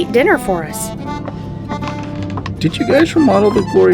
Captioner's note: walking